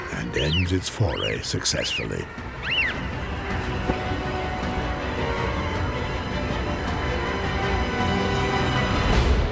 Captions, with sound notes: and ends its foray successfully. [bird squeaks]